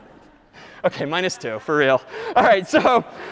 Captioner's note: laughing